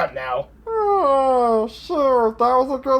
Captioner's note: yawns